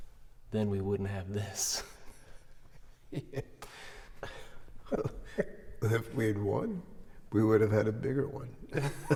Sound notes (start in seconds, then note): 4.2 Luke laughing; 8.7 all laughing